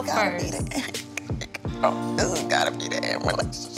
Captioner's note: crying